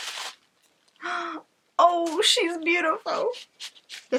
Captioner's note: gasp